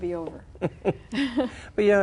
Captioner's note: both chuckle